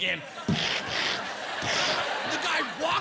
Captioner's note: imitating gunfire